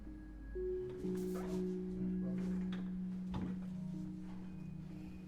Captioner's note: office ambiance